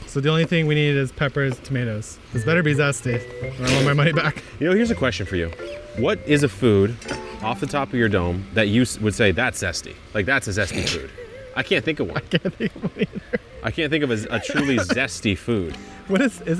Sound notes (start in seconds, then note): 10.5 chuckles